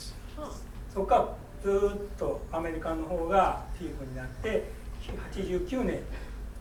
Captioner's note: sighing; speaking in foreign language